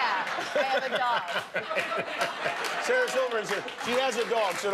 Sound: laughter

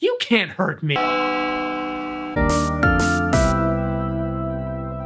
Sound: bell rings

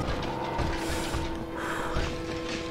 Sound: deep breath

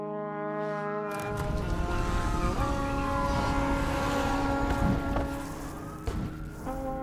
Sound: distant sirens

